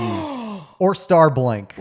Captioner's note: gasps